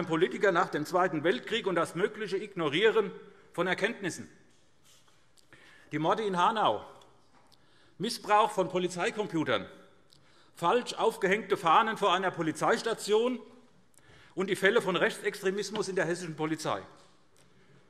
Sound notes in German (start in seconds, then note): none